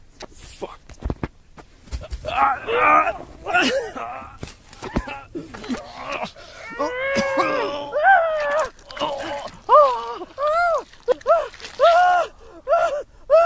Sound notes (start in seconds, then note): 2.6 hiker groans; 6.7 Destiny groans; 6.7 hiker gags; 10.8 hiker cries